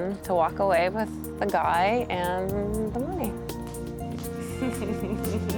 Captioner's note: chuckling